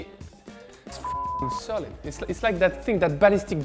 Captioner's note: beeping